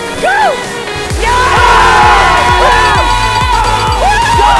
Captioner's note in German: jubel